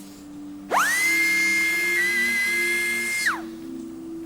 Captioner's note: tool whirring